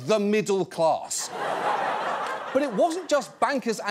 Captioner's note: audience laughs